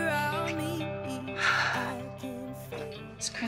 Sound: exhales deeply

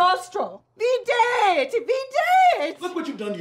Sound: angrily speaking Latin

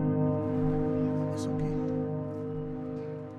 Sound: whispers

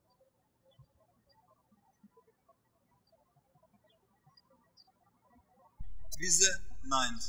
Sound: birds chirping

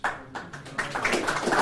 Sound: clapping

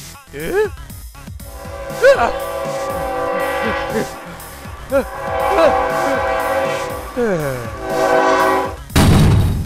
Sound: train horn blows

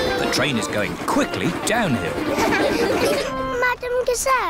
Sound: laughter

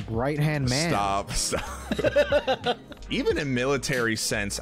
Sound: laughing

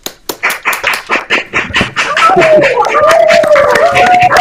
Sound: applause; cheering and whooping

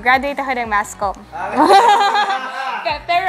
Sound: laughs

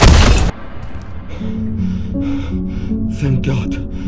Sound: breathing

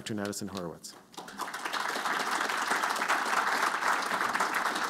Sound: applause

